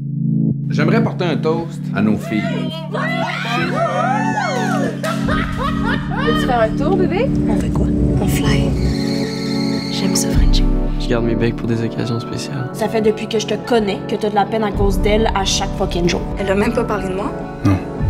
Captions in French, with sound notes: - J'aimerais porter un toast à nos filles. (exclamations de joie) (rire) - Viens-tu faire un tour, bébé? - On fait quoi? - On flye! J'aime ça, frencher. - Je garde mes becs pour des occasions spéciales. - Ça fait depuis que je te connais que t'as de la peine à cause d'elle à chaque fucking jour. - Elle a même pas parlé de moi? - Non.